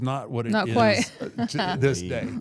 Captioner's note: laughs